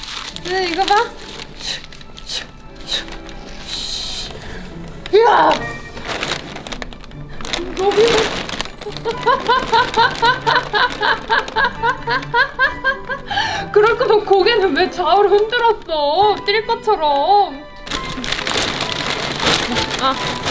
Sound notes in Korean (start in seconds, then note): 0.0 바스락 소리; 8.8 웃음 소리; 17.8 바스락 소리